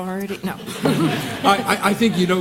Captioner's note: laughter